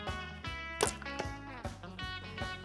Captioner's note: arrow shot